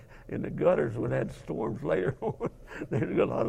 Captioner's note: laugh